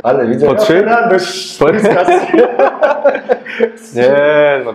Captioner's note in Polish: śmiech